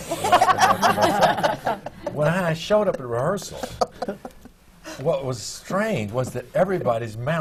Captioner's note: laughter